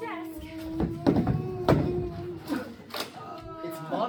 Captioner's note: dying groans